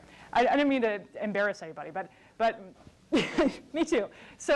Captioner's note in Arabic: ضحك